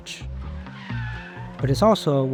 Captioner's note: tires screeching